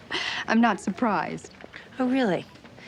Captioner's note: laughs